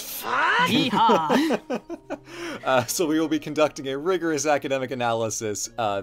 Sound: laughs

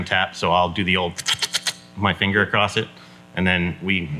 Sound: squeaks

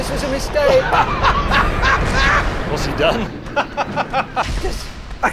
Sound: other two hosts laughing

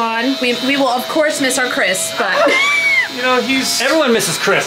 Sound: laughs

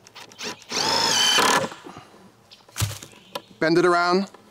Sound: screwdriver whirring

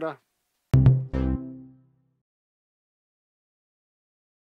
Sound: cheerful tone

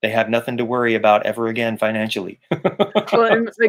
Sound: laughing

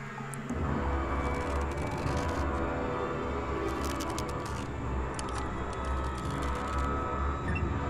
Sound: rope creaking

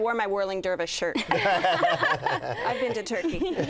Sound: laughing

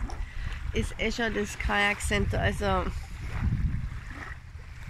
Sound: wave noise

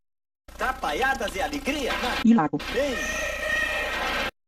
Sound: male announcer speaking Portuguese

